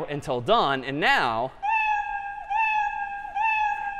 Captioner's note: meowing